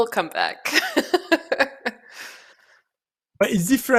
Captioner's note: laughs